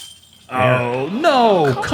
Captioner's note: shatter